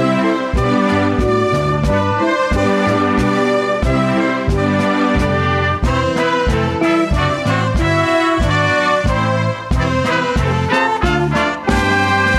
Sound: applause, Cheering

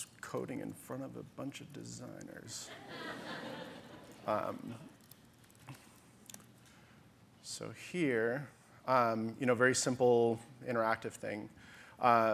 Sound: audience laughter

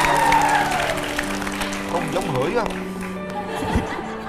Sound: applause

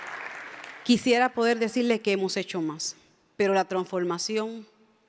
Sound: speaks in Spanish

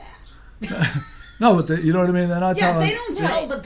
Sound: voiceover

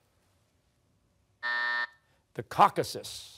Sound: buzzer

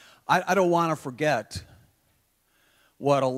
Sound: none

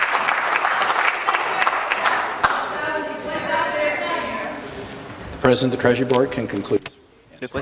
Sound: applause

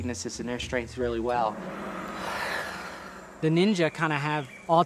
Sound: gong rings

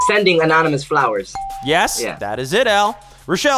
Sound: ding

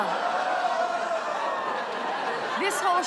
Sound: audience "oohs"

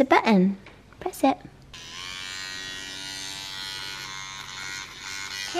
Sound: whirring

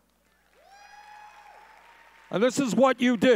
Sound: audience cheering

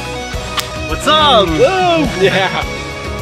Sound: upbeat music; hands smack

